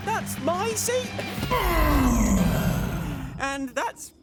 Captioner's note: groaning